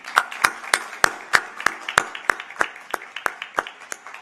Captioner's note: applause